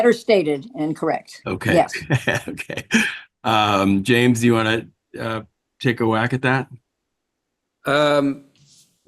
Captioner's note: laughs